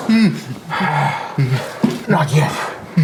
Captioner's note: Janus sighs